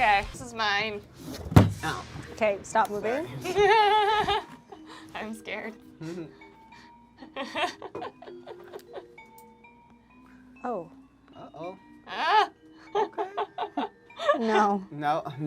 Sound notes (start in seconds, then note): 7.2 laughs